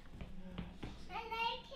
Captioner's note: speaking in alternate language